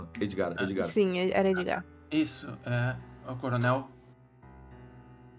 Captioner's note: none